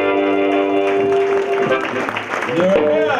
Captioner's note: audience applause